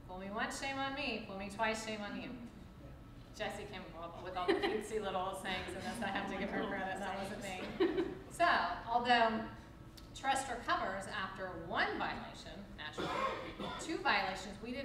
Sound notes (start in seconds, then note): 5.4 laughs